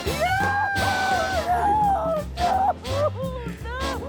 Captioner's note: crying